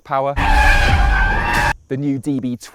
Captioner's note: brakes squealing